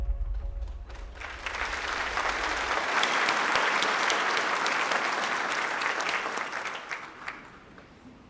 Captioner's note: applause